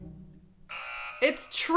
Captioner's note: buzzer sounds